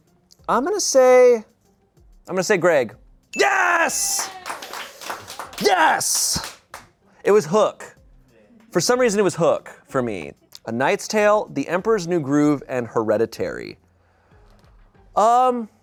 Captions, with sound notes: I'm gonna say... I'm gonna say Greg. (bell dings) Yes! (audience applauding) Yes! It was "Hook." For some reason it was "Hook" for me. "A Knight's Tale," "The Emperor's New Groove," and "Hereditary."